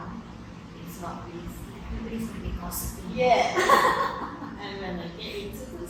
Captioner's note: laughs